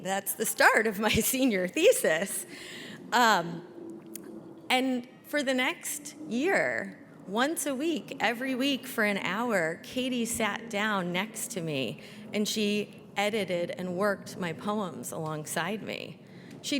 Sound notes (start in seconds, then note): none